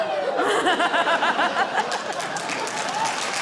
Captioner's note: laughs; applause